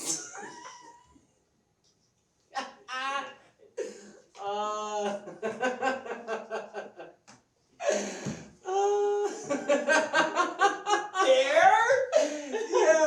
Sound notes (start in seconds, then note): 0.2 laughs; 9.2 BIG laughs